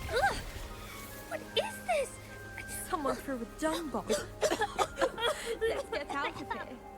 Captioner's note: Disgusted Ravenclaw noises